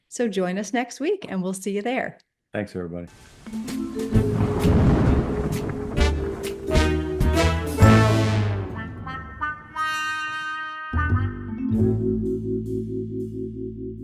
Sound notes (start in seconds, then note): 3.4 whimsical music; 4.0 thunder rumbling